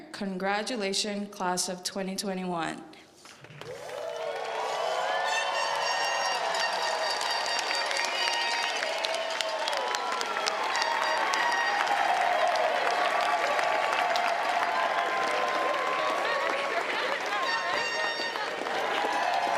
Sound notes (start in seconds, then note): 4.0 crowd cheers; 5.0 horn blaring